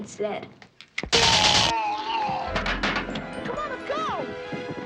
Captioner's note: electricity sizzling; Max groaning